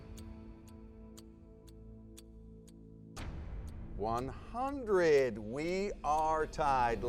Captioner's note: clock ticking